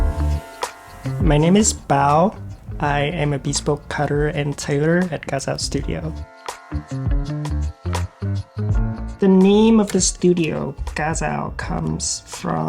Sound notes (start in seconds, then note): 0.0 scene buzzing; 2.3 smooth jazzy music; 10.2 smooth jazzy music continues